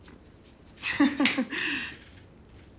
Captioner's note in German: unsicheres lachen